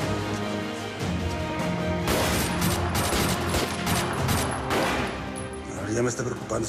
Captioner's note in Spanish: Disparos